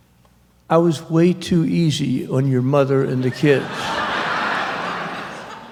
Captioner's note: laughter